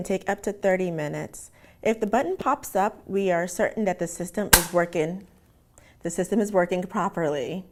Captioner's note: pop